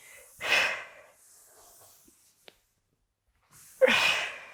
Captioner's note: breathing sharply